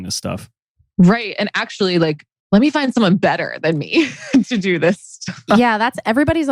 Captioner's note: laughs